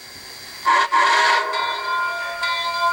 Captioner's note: whistle